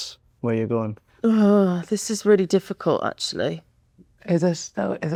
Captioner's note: groan